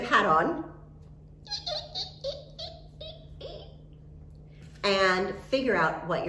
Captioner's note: imitates squeaking